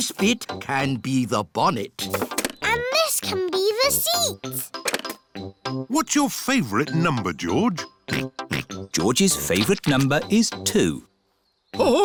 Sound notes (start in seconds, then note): 8.8 snorts